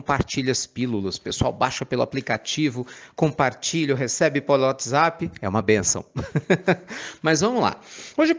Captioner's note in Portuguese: risadas